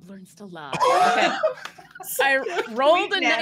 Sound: cheering

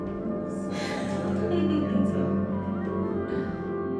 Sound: laughs

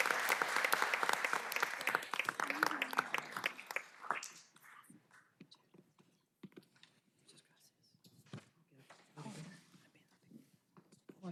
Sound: applause

